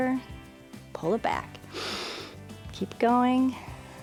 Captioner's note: inhales